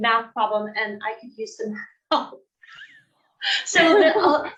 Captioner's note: laughs